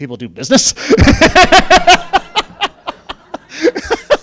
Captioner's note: laughing